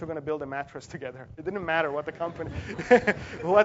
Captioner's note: laugh